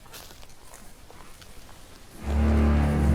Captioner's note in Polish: odgłosy kroków w lesie